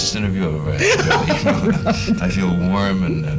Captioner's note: laughter